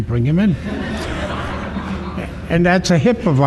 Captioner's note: laughter